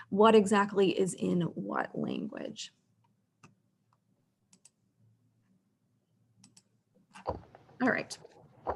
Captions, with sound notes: what exactly is in what language. (mouse clicking) All right.